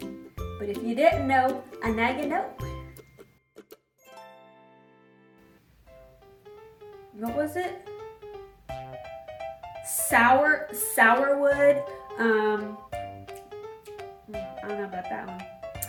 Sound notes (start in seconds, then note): 13.3 smacking lips